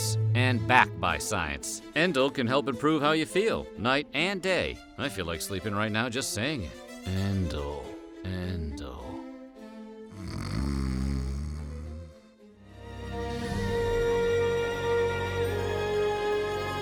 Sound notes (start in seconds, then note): 10.1 snoring